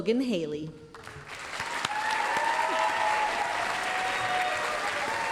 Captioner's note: applause, cheering